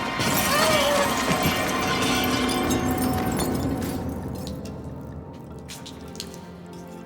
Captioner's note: crashing; bottles breaking; wine spilling